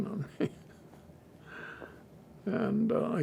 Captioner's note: laughing